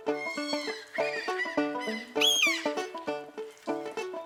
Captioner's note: birds cawing